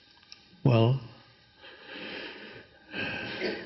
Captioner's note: sighs